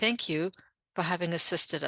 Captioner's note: speaking French